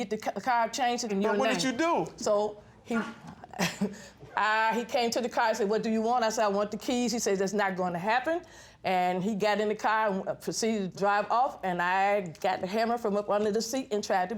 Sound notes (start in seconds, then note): 3.2 chuckles